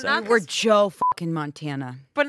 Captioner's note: beep